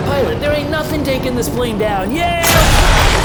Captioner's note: screaming